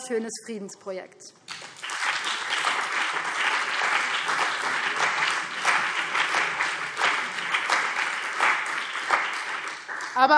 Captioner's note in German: Beifall BÜNDNIS 90/DIE GRÜNEN und CDU